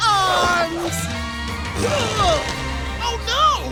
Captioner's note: grunting